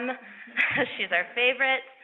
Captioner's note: laughs